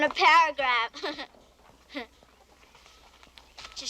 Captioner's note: laughs